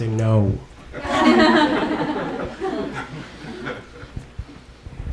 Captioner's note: audience laughs